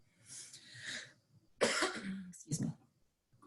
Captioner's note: coughing